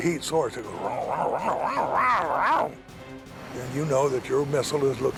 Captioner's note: growling